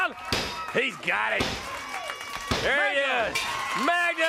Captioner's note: crowd cheering